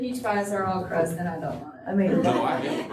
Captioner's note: laughter